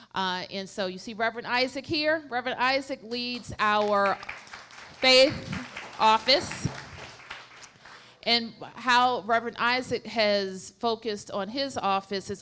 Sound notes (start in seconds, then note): 6.1 applause